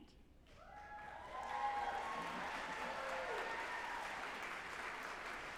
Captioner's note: group applauding and cheering